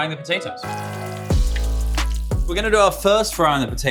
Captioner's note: gentle music continues; oil sizzles